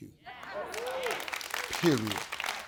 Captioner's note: audience clapping